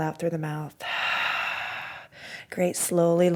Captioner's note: exhales